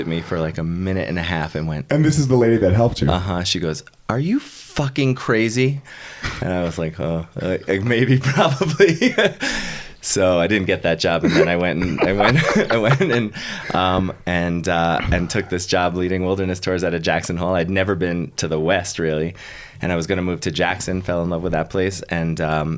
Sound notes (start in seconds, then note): 11.2 laughing